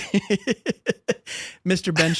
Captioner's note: laughter